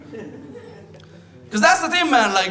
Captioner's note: audience laughs